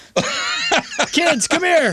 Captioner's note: laughing